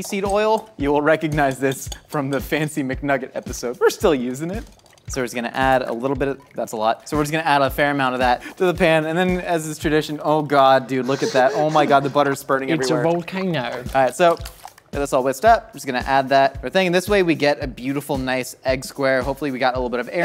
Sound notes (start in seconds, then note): 11.5 laughter; 13.0 in British Accent